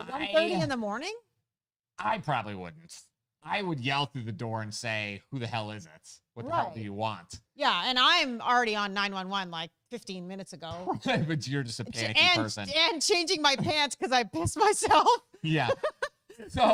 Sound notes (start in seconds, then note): 11.2 mumbles; 15.6 laughs